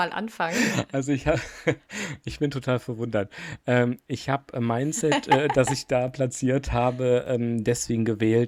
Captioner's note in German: gelächter